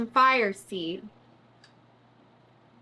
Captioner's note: none